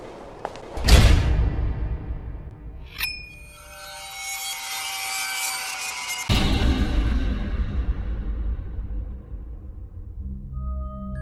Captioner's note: footsteps; sound FX